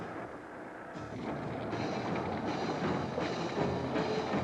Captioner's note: engine revving